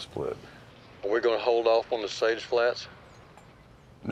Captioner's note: on phone